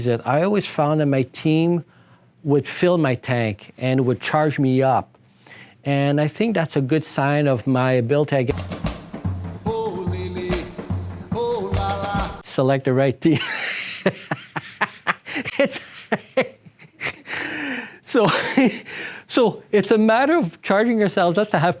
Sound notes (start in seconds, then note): 8.5 joyful music; 13.3 laughter